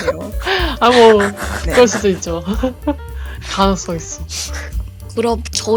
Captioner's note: laugh